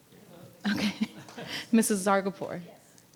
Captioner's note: laughs